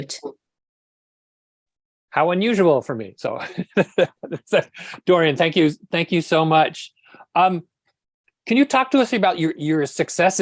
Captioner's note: laughs